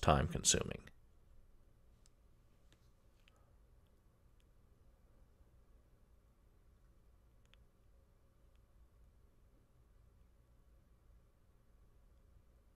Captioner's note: pause